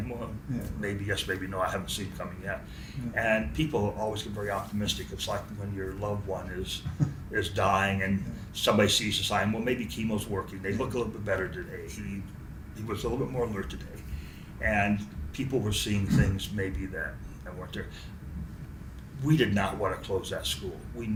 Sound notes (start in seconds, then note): 6.8 laughs to self